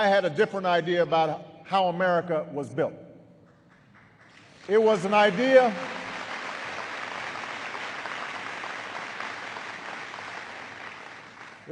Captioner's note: applause